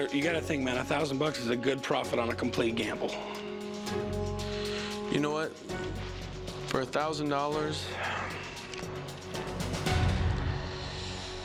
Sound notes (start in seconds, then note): 7.9 sighs